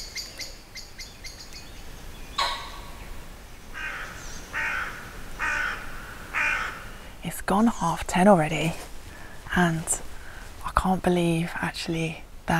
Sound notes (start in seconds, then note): 2.4 pheasant squarking; 3.7 crow cawing